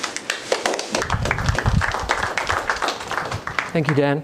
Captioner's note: applause